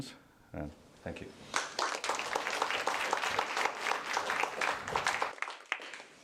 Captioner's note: applause